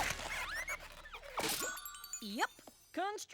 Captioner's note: smack!; tinkle!